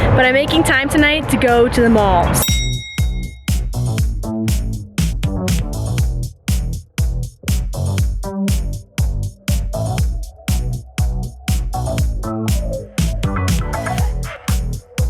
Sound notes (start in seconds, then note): 2.4 ding; 3.8 upbeat music